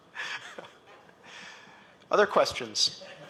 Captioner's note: laughter